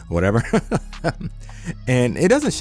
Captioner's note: laughs